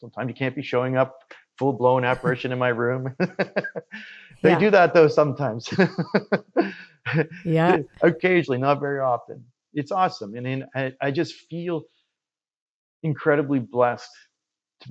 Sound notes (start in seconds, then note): 2.0 laughs; 7.3 laughs